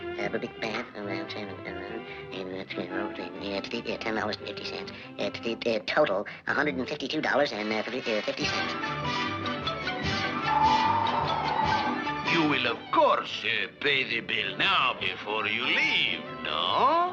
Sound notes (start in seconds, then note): 9.6 bright music; 10.2 air blowing